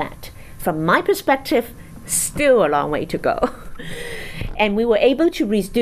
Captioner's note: chuckles